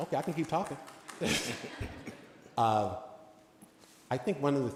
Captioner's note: group laughing